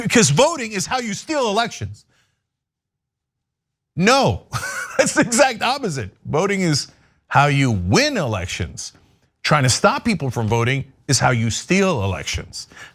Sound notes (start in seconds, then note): 4.4 laugh